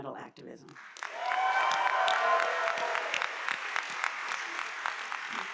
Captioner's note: audience applauding